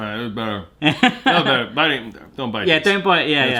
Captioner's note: laughter